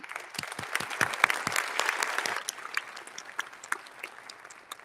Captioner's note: audience applauding